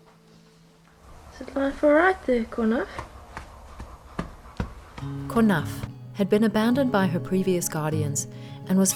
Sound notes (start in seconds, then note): 4.0 tail thudding; 5.0 gentle music